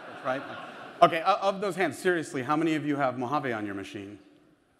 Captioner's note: laughing